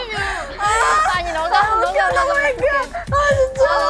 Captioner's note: crying in laughter